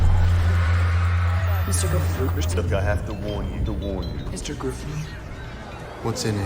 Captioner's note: echoing